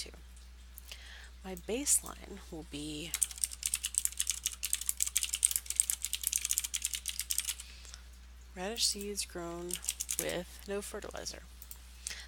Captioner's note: typing